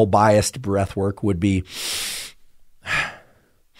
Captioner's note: inhales and exhales